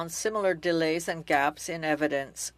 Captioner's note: speaking French